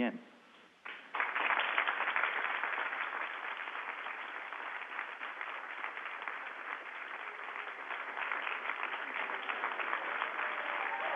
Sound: applause

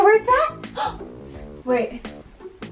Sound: gasps

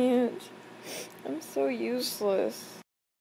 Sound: sniffles

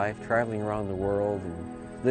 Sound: voiceover

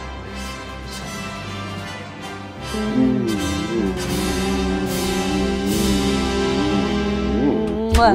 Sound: kissing noises

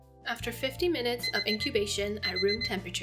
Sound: alarm rings

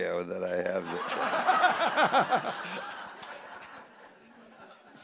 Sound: audience laughing

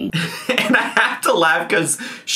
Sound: laughing

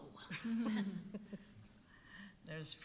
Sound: laughing

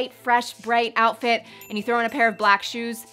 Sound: chiming

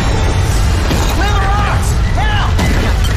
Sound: shouts

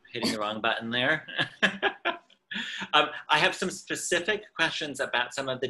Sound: laughs

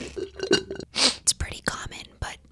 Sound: slurp; sniffle

